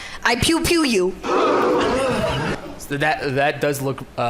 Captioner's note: audio gasp